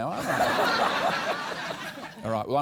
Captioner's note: laughter